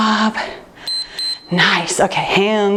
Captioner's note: timer beeps